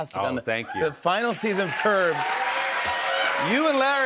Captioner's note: cheers and applause